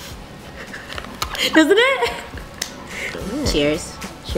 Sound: laughs

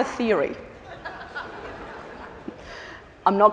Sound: laughter

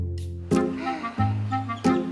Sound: sighs

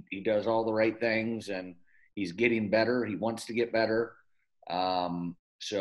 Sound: none

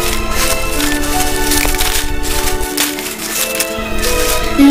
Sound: leaves rustling

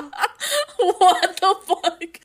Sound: laughing

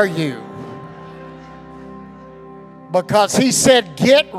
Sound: congregation laughing

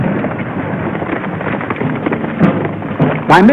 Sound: hooves clopping

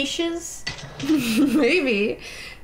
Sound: laughing

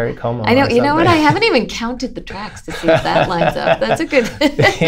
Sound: laughter

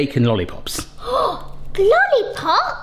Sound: gasps

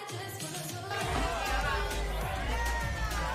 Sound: shouting

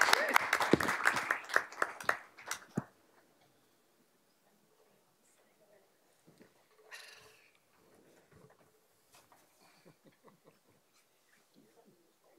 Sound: applause

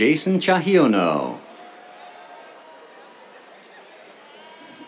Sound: cheers

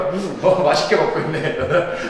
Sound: laughing

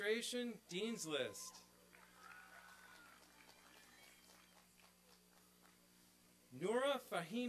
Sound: applause and cheering

